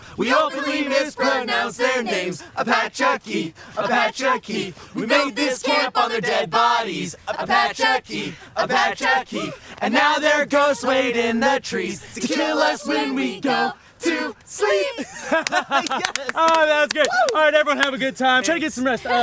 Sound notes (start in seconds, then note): 14.9 laughter